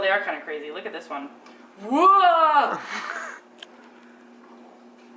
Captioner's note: laughs